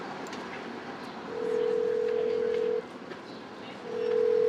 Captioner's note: phone ringing